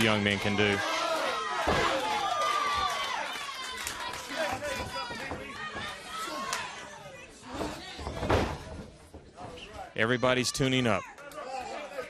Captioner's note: crowd cheering; crowd chatter